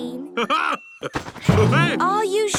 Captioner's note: laughs